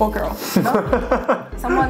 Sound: laughs

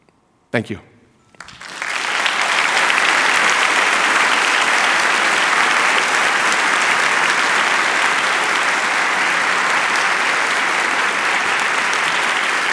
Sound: applause

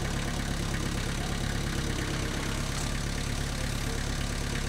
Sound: skid steer engine humming

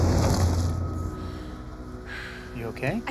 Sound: car tires screeching

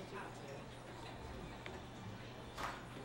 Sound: low hum of chatter

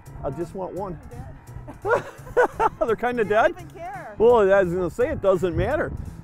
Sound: laughin

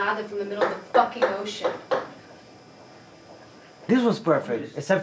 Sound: hammer banging

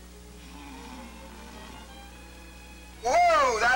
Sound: people snoring

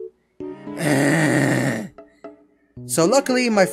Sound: sighs in poor

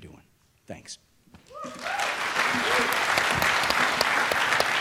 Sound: applause

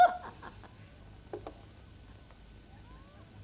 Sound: laughter continues

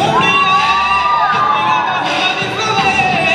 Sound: cheers

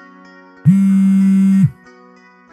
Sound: phone vibrating

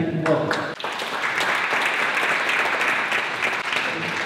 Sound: applause

